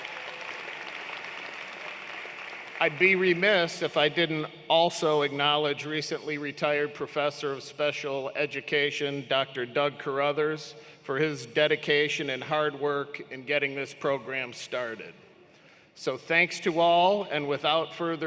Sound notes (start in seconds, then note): 4.1 cheers and Applause